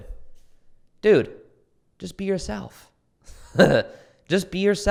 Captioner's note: chuckles